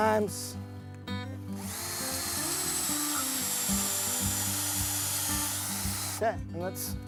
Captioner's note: drilling